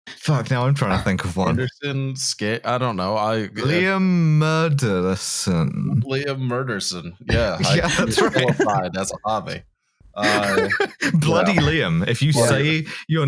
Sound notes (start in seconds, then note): 0.0 laughs; 10.2 laughing; 10.2 laughter